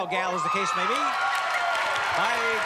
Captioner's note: cheers and applause